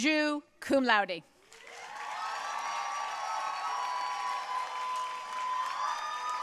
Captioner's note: audience cheering and applauding